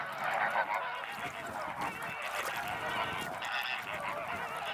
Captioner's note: birds chattering